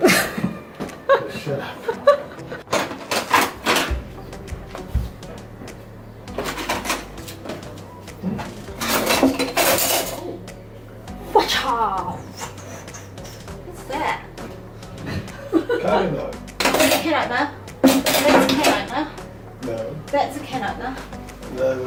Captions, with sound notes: [snorts and laughs] "Shut up!" [laughing] "What's that?" "Carving knife." "Can opener, that's a can opener, THAT's a can opener."